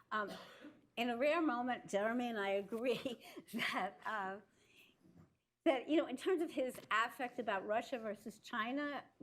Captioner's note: laughs